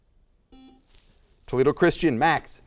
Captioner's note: buzzer noise